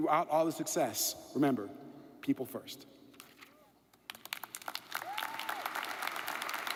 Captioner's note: audience applauds